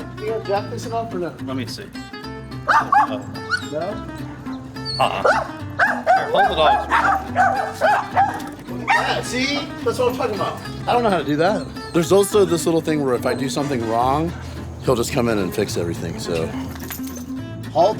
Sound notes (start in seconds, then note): 2.9 dog barking; 7.2 dogs barking